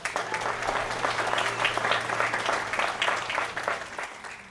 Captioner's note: applause